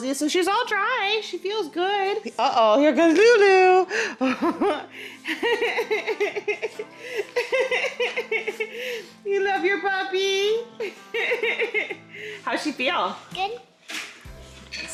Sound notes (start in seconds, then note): 5.2 laughs; 10.8 laughs